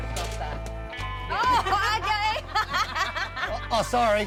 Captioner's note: mumbling, laughing